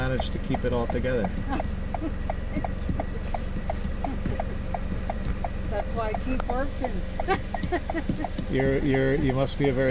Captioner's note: laughs